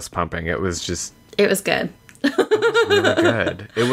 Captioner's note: laughs